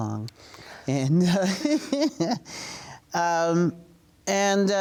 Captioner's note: laughing